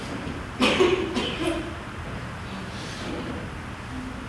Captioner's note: coughing Noise